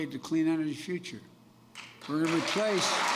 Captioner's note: applause